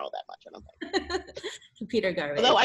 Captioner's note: chuckles